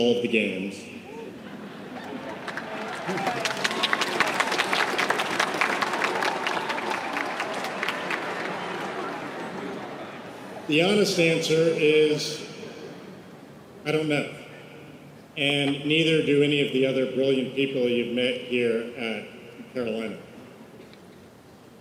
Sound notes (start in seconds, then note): 5.5 laughter and applause